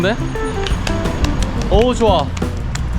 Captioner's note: clap x5